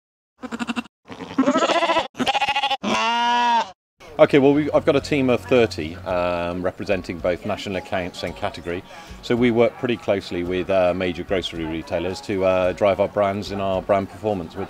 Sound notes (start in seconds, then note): 1.0 sheep bleating